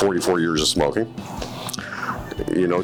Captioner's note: lips smacking